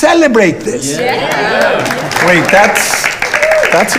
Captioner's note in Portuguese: aplausos